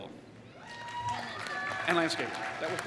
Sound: applause

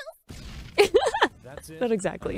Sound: laughs

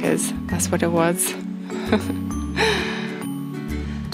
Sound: laughs to herself

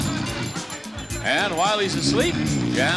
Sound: snoring

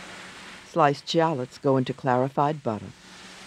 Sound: voiceover

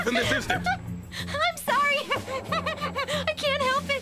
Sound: continues Giggling

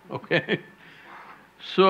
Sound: laughs

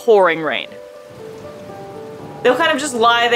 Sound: background music; quiet rainfall sound

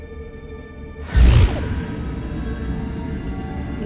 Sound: Apple pulsating

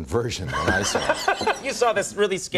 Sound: laughter

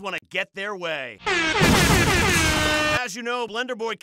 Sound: explosion sounds

